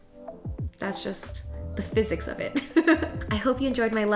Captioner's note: laughs